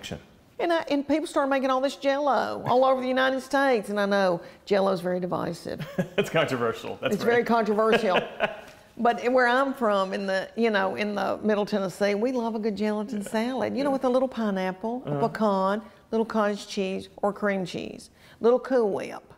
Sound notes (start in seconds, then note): 5.8 laughter